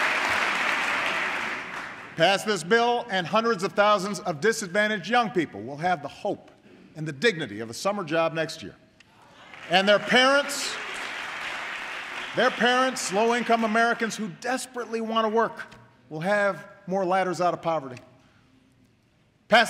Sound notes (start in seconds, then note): 9.3 applause